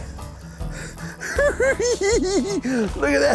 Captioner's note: giggling